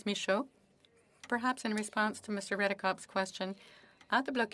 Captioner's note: speaking French